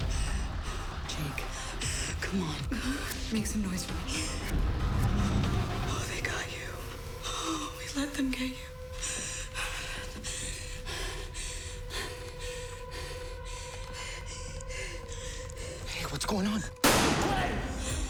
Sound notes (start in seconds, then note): 4.3 inhales sharply, breathes shakily; 7.7 voice breaking; 8.8 breathing heavily